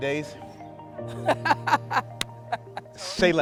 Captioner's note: laughing